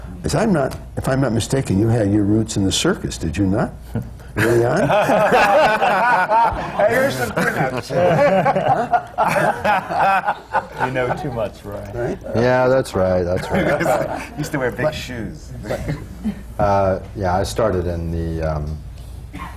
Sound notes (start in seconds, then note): 6.8 laughter; 15.6 laughter